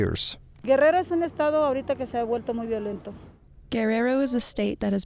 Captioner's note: speaking Spanish